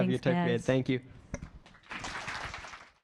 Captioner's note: applause